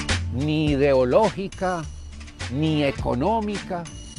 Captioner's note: man speaking Spanish